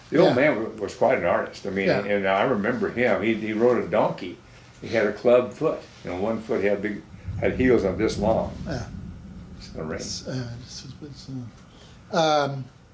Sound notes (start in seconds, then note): 8.4 thunder rolling